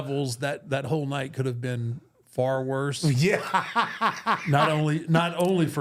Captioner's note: laughs